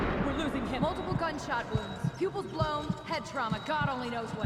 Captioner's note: none